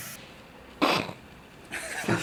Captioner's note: sneeze